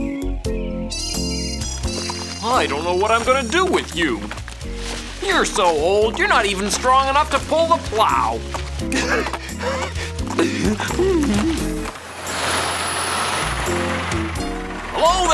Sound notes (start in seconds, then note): 8.5 donkey panting; 12.2 tractor rumbling